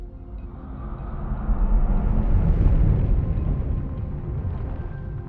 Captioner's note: rushing air